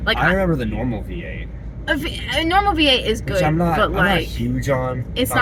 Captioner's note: none